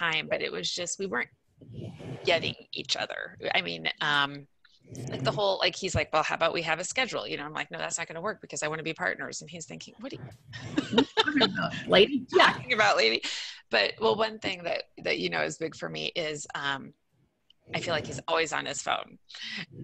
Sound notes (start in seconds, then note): 10.5 laughing